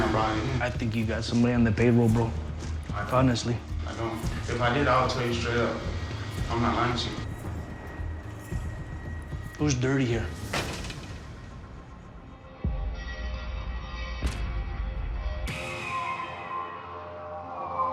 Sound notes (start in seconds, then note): 8.3 door closes; 10.6 ominous music